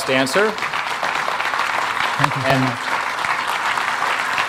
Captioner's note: audience clapping